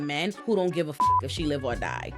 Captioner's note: beep